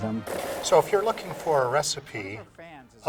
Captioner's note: blender whizzing